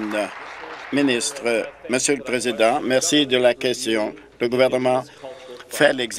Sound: applause

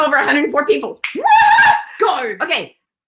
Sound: snapping fingers; cheering

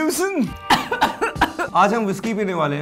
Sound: coughs

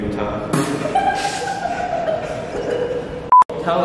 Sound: uncontrolled giggles

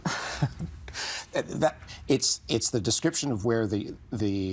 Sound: chuckling; stammering

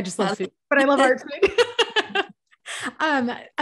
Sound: laughs

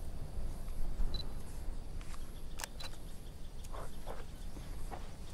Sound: camera beeps and clicks

